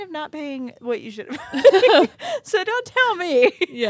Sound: chuckling

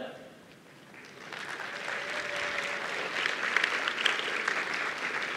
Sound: applause

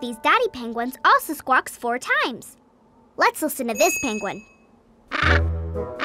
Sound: squawking

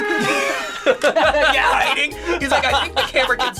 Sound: sad trumpet music; both laugh

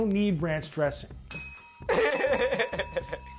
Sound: bells ring; laughs

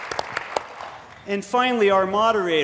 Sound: applause

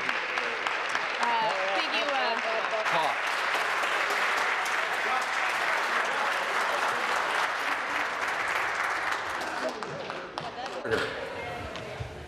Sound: applause

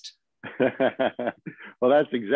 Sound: laughter

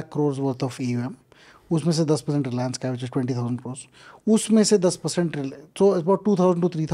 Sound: speaks in Hindi

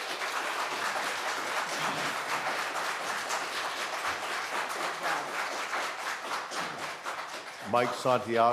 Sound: applause

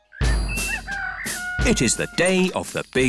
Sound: rooster crowing

